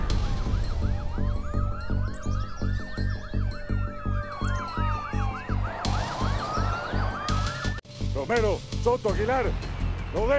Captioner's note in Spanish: sirena de patrulla